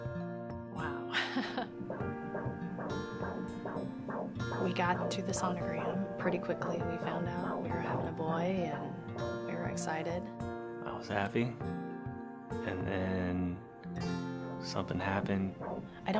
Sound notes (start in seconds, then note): 1.2 laughs; 1.4 heartbeats